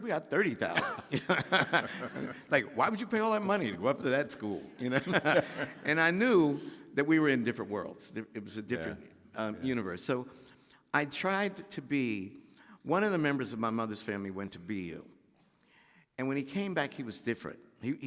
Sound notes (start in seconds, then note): 0.6 laughing; 4.6 laughing